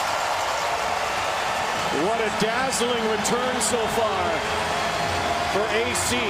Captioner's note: cheering